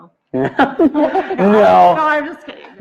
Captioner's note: laughs